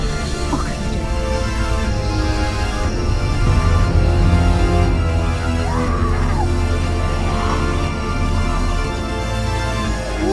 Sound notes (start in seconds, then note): 2.4 dramatic music; 5.5 Miss. Fang screaming; 8.1 dramatic music